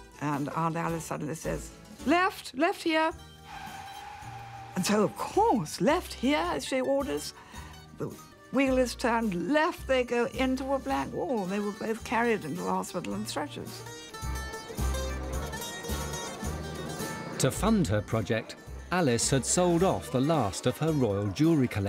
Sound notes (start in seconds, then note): 3.4 tires screeching; 14.2 crowd muttering; 14.3 upbeat music